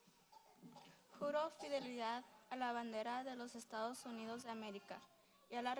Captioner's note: speaking foreign language